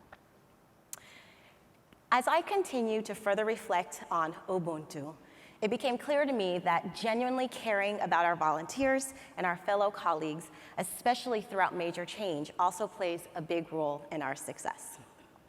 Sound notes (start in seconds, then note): none